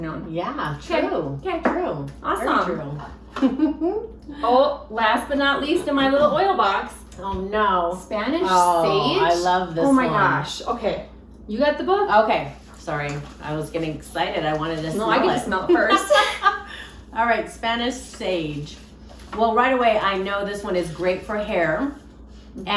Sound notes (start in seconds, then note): 3.4 laughs; 15.6 both laughing